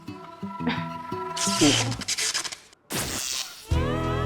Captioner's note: sound of electricity flowing